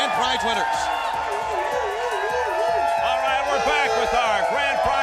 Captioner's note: crowd cheering